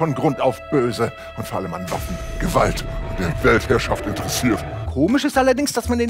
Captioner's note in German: verzerrt